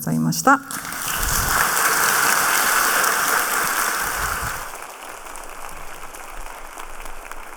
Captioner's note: applause